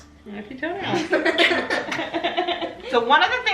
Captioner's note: everyone laughs